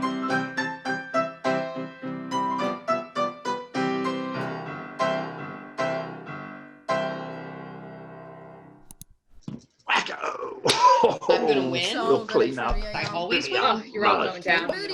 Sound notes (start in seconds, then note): 8.8 mouse click